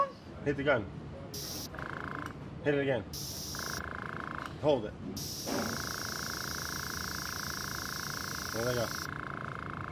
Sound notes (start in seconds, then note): 1.4 gun blowing air; 5.2 gun blowing air